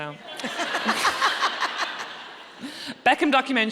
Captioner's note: audience laughing